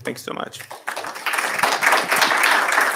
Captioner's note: applause